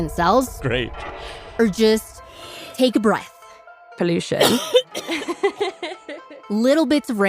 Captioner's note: inhales; coughs; laughs